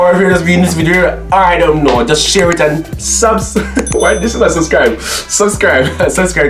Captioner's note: laughs